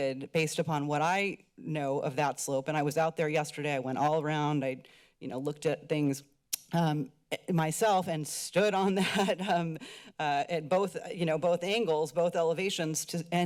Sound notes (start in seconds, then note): 9.0 laughs